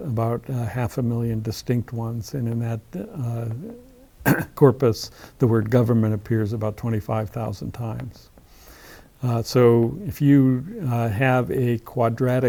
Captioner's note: cough